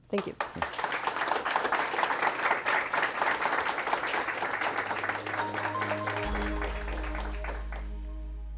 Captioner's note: applause